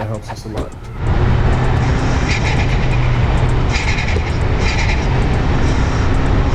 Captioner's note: engine revving